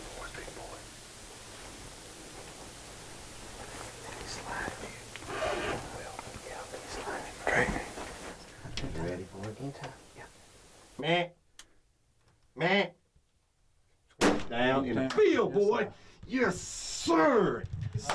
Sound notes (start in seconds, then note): 10.8 hunter calls; 14.2 gunshot